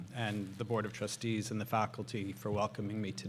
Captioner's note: none